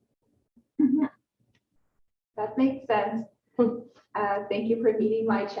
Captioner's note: chuckles